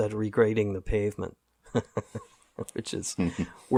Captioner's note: laughter